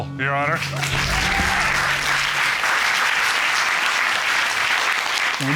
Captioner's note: cheers and applause